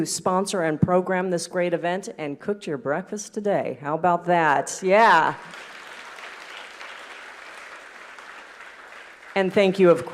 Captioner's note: applause